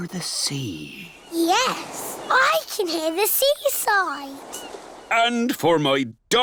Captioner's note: waves splashing